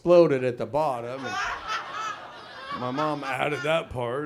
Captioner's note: audience laughs